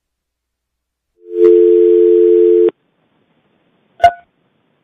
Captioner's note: electronic tone